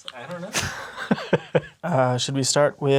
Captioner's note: laughs